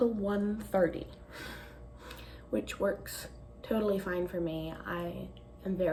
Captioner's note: exhales deeply